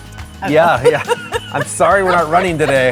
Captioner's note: laughs